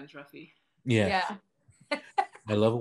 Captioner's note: giggling; laughing